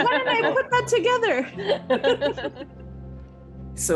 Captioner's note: laughing